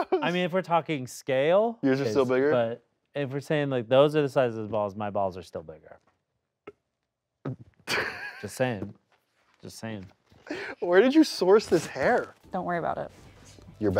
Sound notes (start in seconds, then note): 7.8 laughs